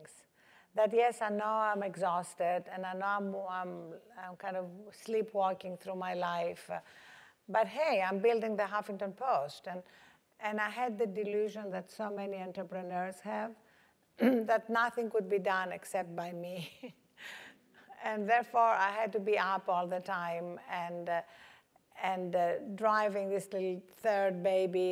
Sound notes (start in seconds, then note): 16.5 laugh